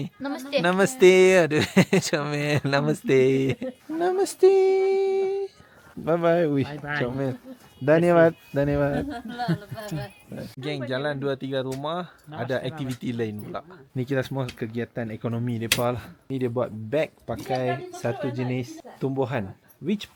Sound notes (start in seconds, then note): 7.9 speaking Nepali